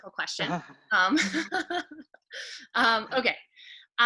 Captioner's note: laughing